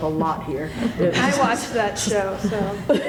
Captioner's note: laughter